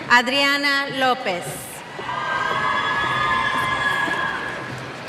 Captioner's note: cheers